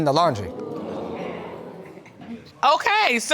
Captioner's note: audience exclaiming